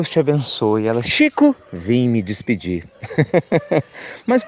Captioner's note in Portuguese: Risos